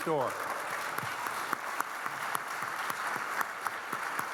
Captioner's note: audience clapping